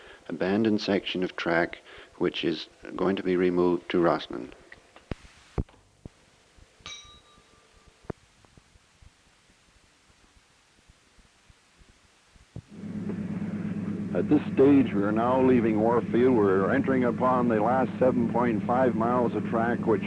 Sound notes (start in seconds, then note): 6.8 bell Sound